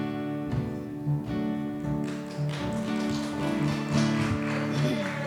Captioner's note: applause